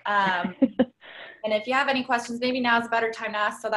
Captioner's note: chuckles